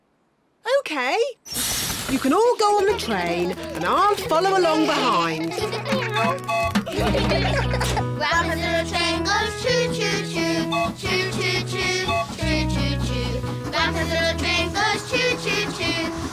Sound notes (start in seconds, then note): 6.0 tooting; 6.7 all giggling